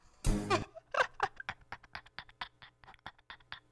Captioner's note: laughter